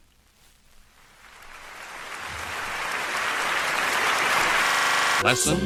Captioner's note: applauding sound